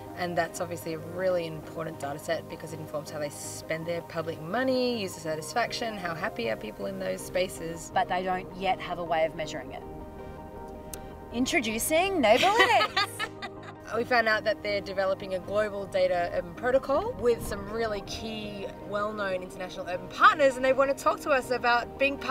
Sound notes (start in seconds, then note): 12.4 laughs